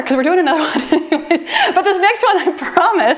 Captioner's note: laughs